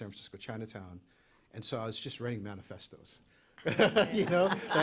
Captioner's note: laughter